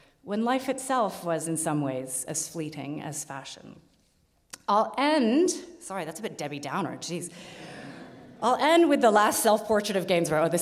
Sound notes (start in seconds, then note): 7.7 audience laughs